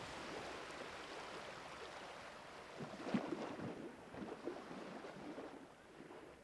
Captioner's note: waves crash